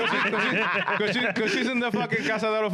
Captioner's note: laughing